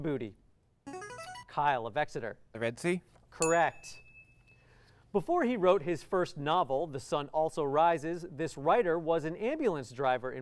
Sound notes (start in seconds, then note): 3.4 ding